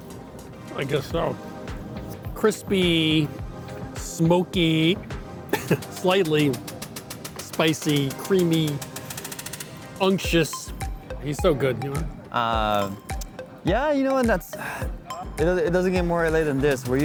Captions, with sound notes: I guess so. Crispy... Smoky... (chuckles) Slightly spicy, creamy... Unctuous... He's so good, you know. - Yeah, you know, and that's... (sighs) It doesn't get more L.A. than this.